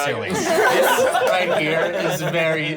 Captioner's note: laughing